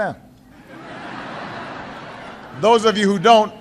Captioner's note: laughter